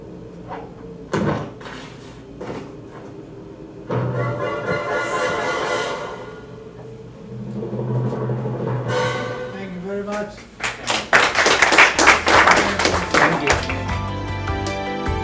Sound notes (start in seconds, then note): 10.5 audience applause